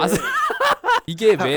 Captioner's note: laughing